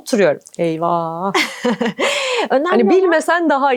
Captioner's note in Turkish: kahkaha